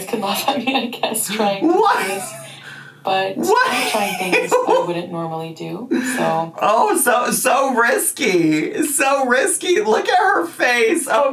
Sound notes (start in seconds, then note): 3.4 laughs